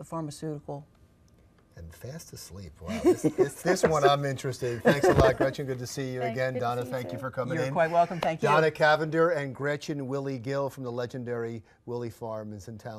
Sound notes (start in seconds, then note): 4.7 laughs